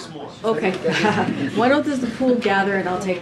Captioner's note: laughs